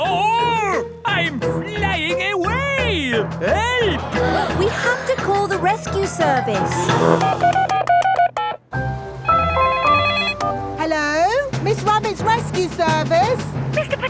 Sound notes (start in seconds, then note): 6.7 beeping; 9.5 phone ringing